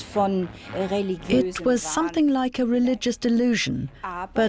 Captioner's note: speaking german